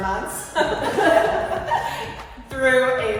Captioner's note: laughing